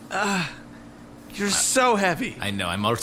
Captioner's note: Pleck groans in agony; groaning